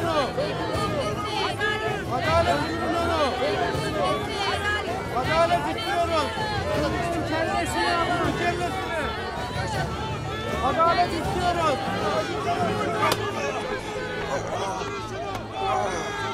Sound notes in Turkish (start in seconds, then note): 13.8 İnilti sesi